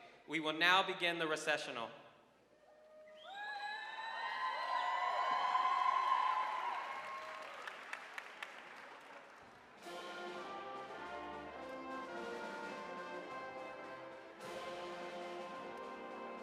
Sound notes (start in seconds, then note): 3.1 audience cheering and applauding; 9.6 celebratory music